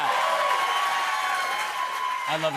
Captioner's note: cheers and applause